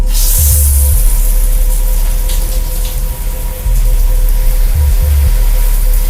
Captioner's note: tense music; water hisses